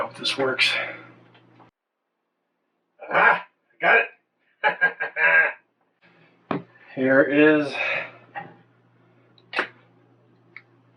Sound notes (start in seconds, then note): 4.6 chuckling